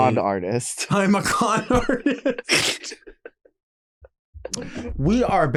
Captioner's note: laughing